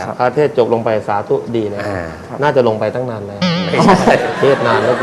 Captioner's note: laughter